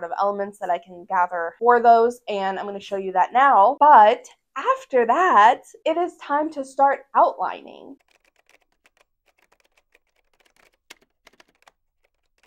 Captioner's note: typing